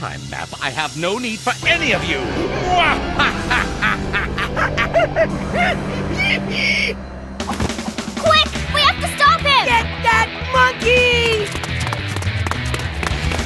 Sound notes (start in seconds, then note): 4.4 monkey noises